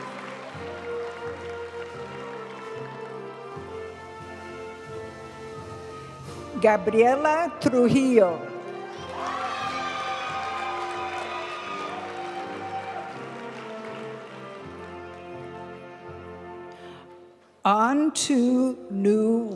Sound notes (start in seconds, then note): 0.2 graduation music; 8.6 audience cheering and applauding; 12.2 graduation music